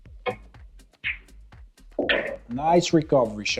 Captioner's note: balls clanging